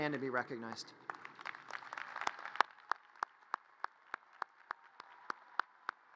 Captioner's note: audience cheers and applause